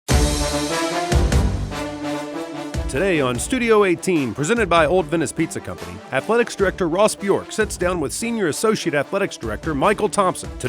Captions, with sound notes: (exciting music) - [Voiceover] Today, on Studio 18, presented by Old Venice Pizza Company, Athletics Director, Ross Bjork, sits down with Senior Associate Athletics Director, Michael Thompson,